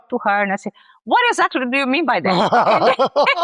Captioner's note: laughs